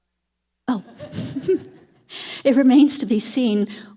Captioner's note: laughs